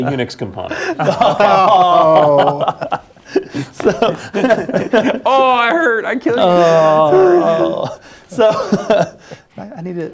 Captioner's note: laugh